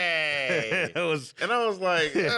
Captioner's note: laughs